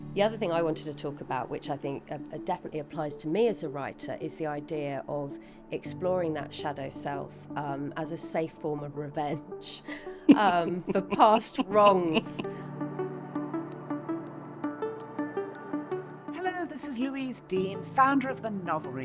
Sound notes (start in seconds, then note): 9.8 laughing